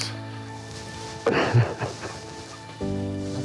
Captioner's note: crying